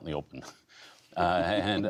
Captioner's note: laughter